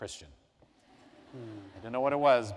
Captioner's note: laughter